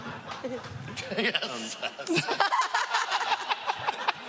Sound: laughing

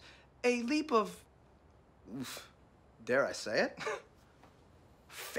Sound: scoffs

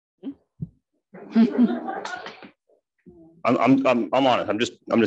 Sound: audience laughing

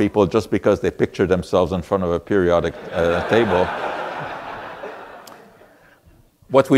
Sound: audience laughter

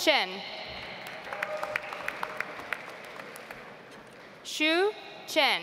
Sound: audience applauds

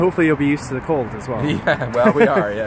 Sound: laughs

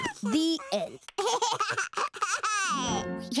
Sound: laughing

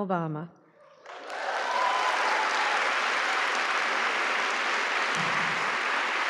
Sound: applause

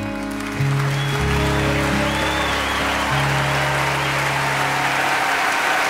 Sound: audience applauds and cheers

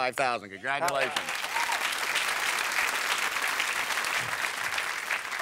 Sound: cheers and applause

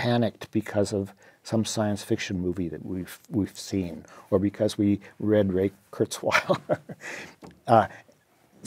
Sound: laugh

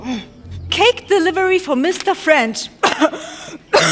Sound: cough

